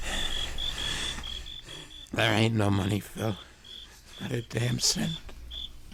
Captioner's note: both grunting; both breathing heavily